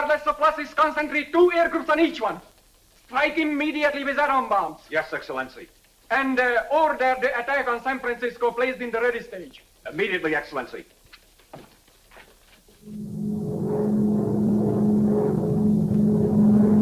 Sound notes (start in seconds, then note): 10.8 footsteps tapping; 12.8 plane engine roaring